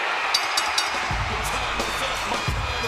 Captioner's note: bell rings; upbeat music